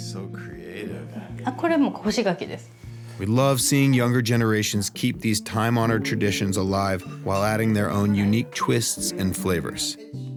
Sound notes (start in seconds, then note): 1.8 speaking Japanese